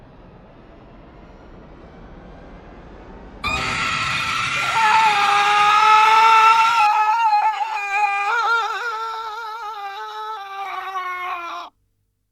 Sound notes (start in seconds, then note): 3.5 ghost screams; 5.9 man screams too